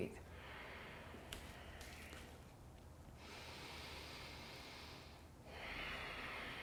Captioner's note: breathing